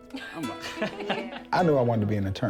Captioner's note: laughter